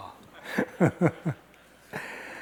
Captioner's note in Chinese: 大笑